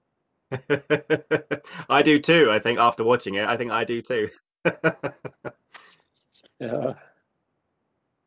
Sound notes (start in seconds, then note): 0.5 laughing; 4.6 laughing